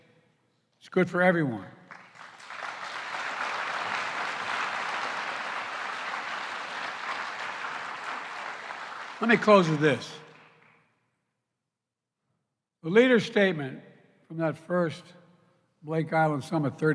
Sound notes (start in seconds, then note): 1.8 applause